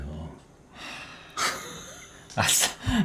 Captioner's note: sigh